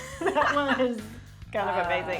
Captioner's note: both laugh